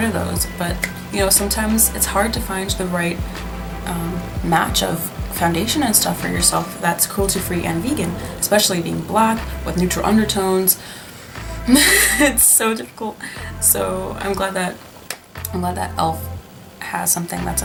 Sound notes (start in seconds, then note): 10.7 sighs